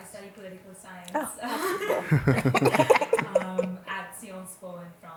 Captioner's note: chuckles